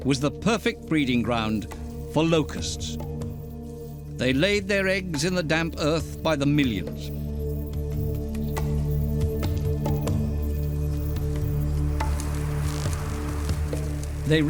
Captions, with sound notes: was the perfect breeding ground for locusts. They laid their eggs in the damp earth by the millions. [locusts chirping] [locusts fluttering]